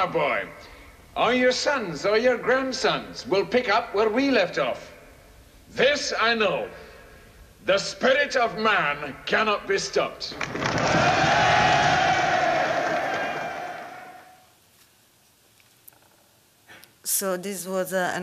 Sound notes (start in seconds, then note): 10.4 cheering